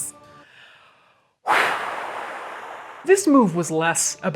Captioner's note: exhales